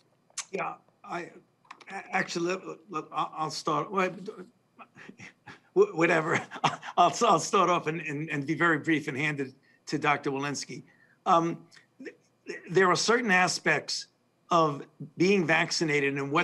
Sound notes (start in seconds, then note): 4.8 laughs